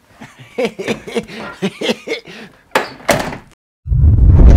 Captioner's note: laughs